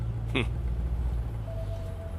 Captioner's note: Scoffs